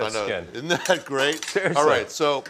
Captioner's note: laughing